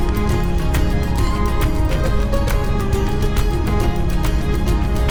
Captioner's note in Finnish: Aplodeja